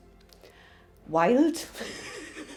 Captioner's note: laughs